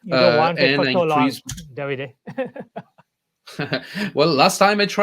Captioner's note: laughs